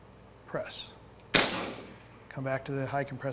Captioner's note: gunshot